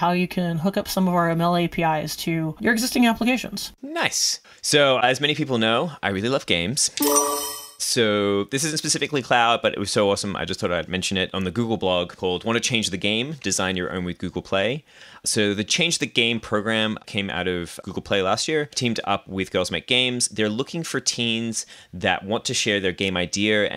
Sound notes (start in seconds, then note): 7.0 chiming